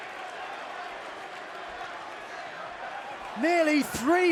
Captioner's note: fans chanting